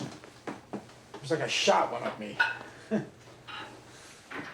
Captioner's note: chuckles